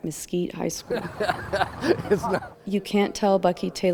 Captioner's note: laughing